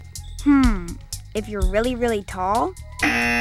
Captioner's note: buzzer